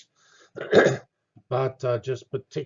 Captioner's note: cough